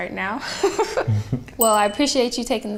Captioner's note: man laughing